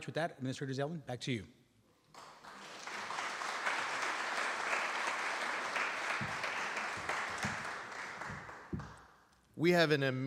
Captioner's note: applause